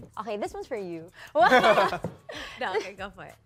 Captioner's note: laughs